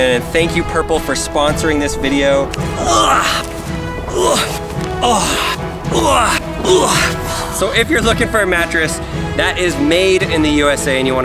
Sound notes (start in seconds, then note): 4.0 grunts